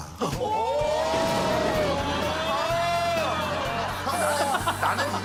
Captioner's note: shocked in unison